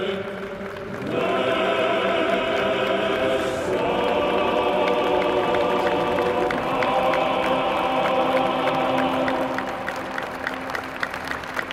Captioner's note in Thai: ปรบมือ